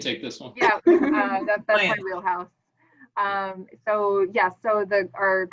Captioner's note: laughs